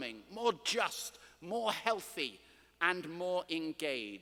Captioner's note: none